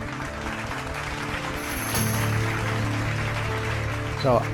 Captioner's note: audience applauding